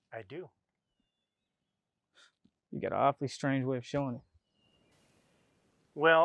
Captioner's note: scoffs